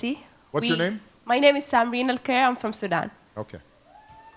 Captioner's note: cheering